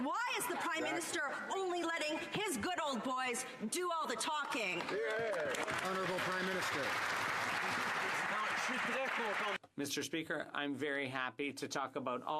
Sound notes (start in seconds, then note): 8.9 some Applause